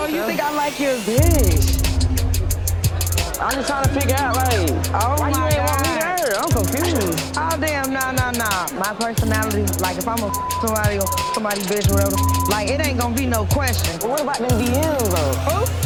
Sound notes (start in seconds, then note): 12.0 beep